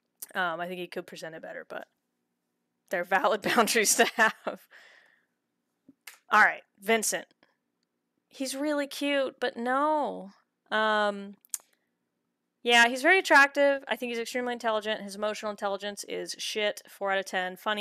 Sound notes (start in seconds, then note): 2.5 laughing